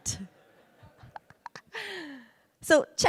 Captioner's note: audience laughs